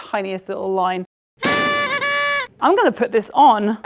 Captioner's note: confetti popping